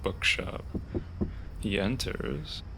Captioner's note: knocking